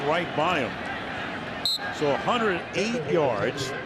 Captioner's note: whistle blowing